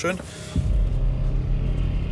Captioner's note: dark sounds